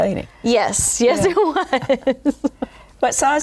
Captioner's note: laughter